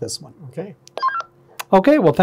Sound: radio beeping

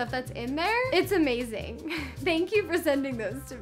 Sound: chuckles

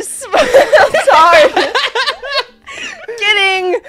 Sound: everyone laughing

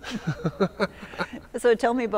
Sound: chuckling

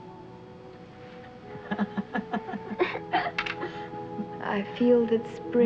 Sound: Margot laughing

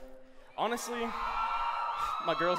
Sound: cheering

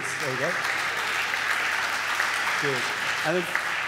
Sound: audience applaud

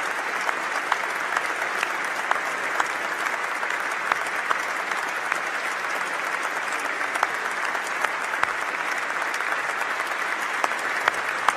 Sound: applause

